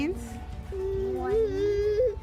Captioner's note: baby gurgles